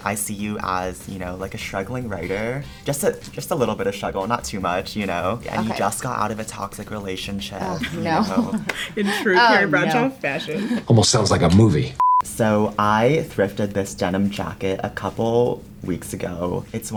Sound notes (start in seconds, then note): 10.5 laughs